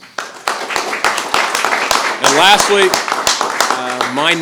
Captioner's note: applause